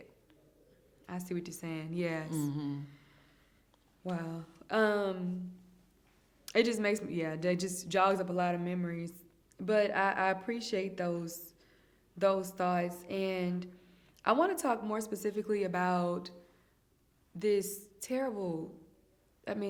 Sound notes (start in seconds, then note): 2.2 hums in agreement